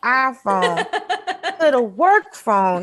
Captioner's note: Desi laughs